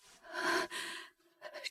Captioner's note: gasp